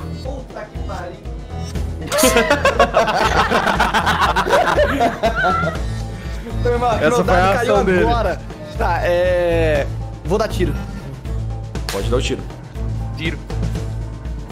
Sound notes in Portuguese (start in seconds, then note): 2.0 risadas